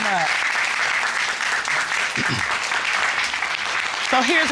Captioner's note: applause